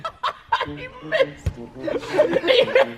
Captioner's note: laughing